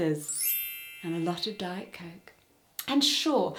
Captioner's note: fairy dust sfx